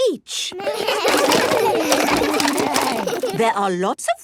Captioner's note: all laugh